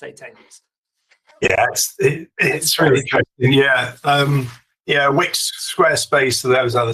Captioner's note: laughs